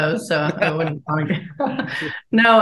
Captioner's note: chuckles